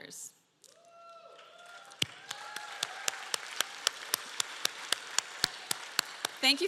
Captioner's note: applause